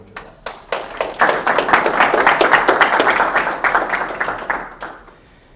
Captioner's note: applause